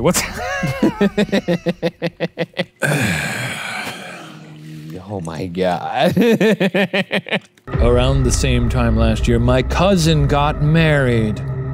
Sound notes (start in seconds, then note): 0.2 both laugh; 2.8 exhales; 5.9 laughs